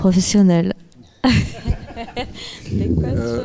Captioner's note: laughing; speaking in French